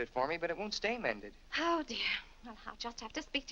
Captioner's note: sighs